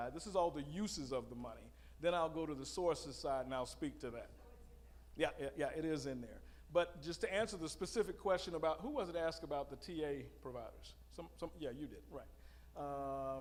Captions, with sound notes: this is all the uses of the money then I'll go to the sources side and I'll speak to that. (female audience member speaking) Yeah, yeah, yeah, it is in there. But just to answer the specific question about who was it that asked about the TA providers? Yeah, you did, right,